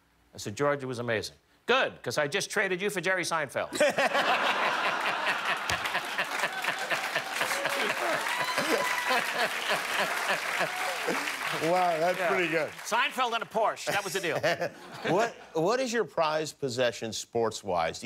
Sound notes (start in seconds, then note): 5.2 laughter; 7.9 cheers and applause